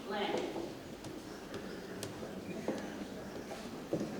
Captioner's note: shoes tapping